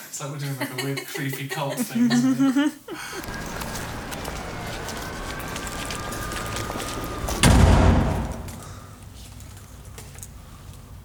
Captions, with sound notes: It's like we're doing like a weird creepy cult thing... [laughter] [city background noise]